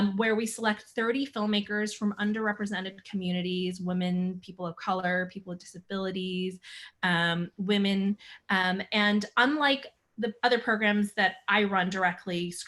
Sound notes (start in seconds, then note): none